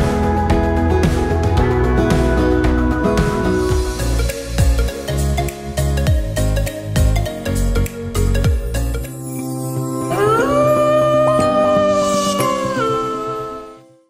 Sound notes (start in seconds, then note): 3.8 upbeat music; 10.0 wolf howling; 10.2 bright music